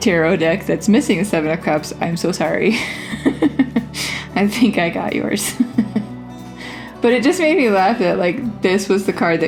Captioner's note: laugh